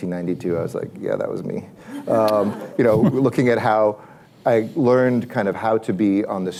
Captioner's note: laughter